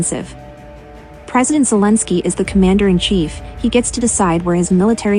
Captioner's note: Ukrainian